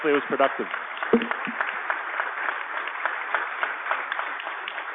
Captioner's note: applause